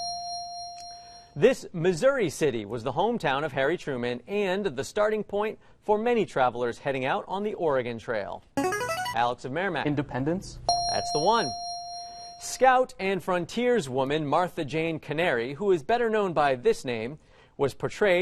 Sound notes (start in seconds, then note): 8.6 player buzzer; 10.7 ding